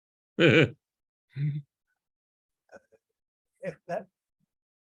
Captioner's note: laughs